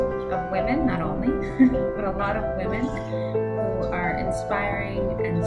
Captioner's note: chuckles